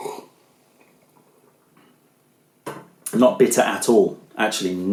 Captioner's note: sips tea